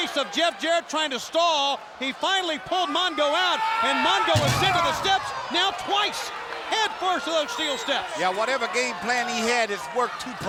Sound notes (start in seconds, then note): 3.0 wrestlers grunting; 4.3 body thudding